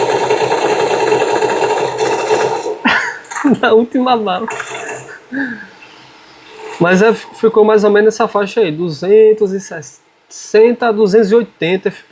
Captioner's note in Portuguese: risadas